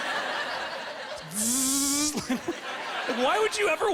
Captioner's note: buzzing